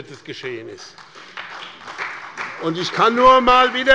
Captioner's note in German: Beifall bei dem BÜNDNIS 90/DIE GRÜNEN und der SPD